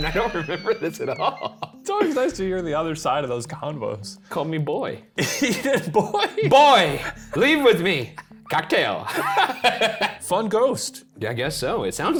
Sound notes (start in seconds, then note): 5.9 laughing; 9.0 laughing